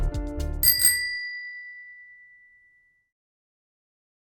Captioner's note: bicycle bell dinging